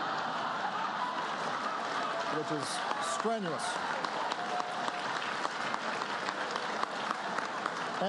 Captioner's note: laughter, applause